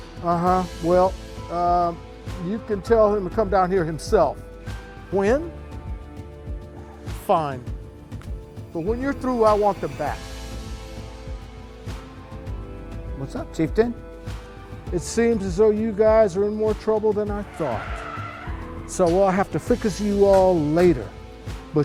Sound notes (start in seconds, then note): 17.2 tires screeching